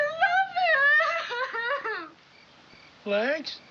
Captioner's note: sobbing